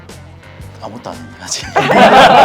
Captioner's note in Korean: 웃음